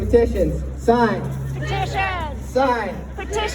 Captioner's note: crowd